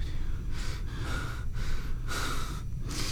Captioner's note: heavy breathing